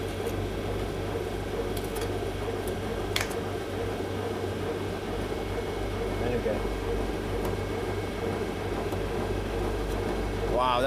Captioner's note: machine whirring